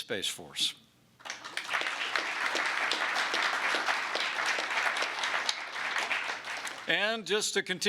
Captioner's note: applause